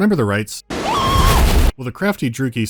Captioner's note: scream